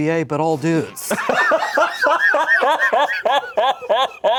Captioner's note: everyone laughs